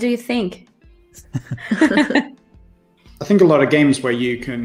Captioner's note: laughter